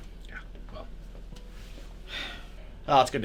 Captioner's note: sighs